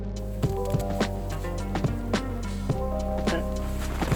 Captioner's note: branches bouncing; laughing